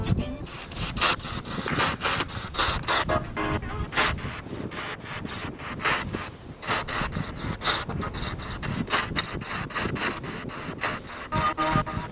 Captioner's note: radio noise from the spirit box